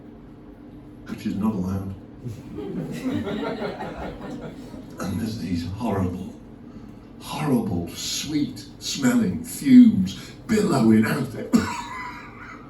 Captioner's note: coughs